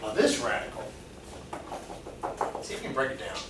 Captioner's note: fingers tapping